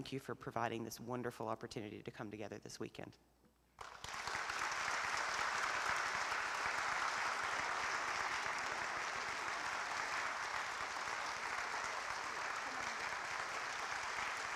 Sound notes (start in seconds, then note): 3.7 applause